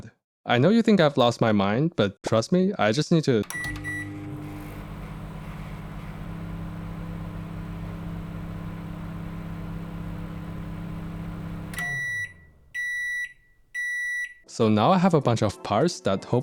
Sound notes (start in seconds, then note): 3.4 microwave sound